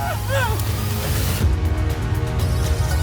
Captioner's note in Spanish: Gritos